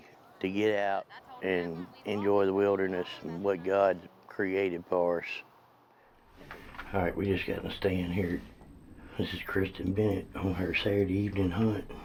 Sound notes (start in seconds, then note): 8.4 talks softly; 11.3 talks softly